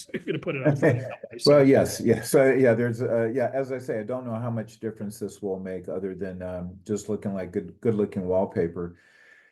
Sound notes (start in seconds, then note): 0.0 laugh